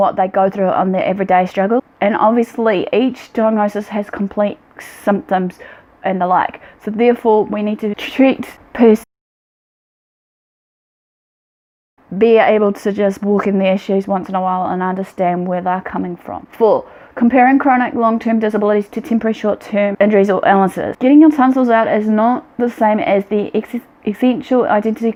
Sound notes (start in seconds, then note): 9.7 long pause